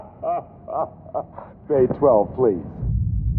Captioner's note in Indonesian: Tertawa